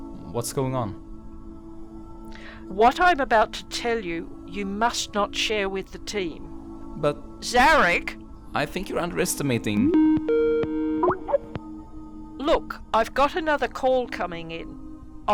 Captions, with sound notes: What’s going on? What I’m about to tell you, you must not share with the team. But— Zarek! I think you’re underestimating— [Incoming call sound] Look, I’ve got another call coming in.